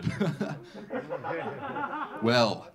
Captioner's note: laughing; audience laughing